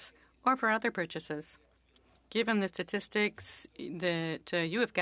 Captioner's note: speaking French